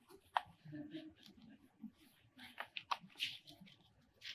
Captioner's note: paper rustling